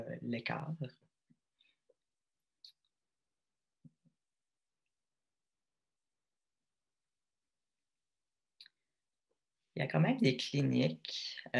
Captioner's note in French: silence